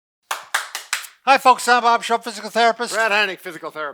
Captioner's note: clapping